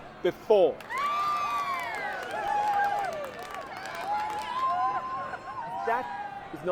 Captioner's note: crowd cheers and claps